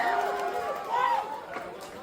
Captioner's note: crowd Cheering